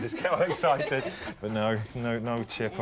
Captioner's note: laughing